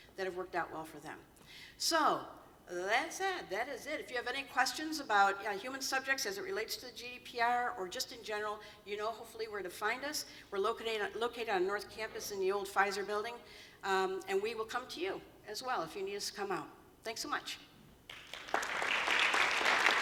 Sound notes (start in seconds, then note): 18.0 applause